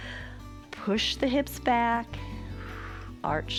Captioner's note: exhales